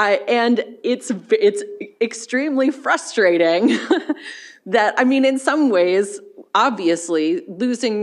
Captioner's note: chuckles